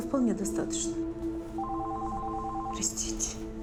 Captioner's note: phone ringing